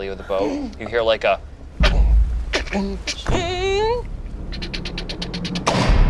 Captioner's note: wood bangs and creaks